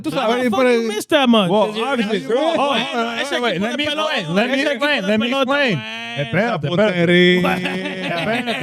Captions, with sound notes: How the fuck you miss that much? (All Chattering)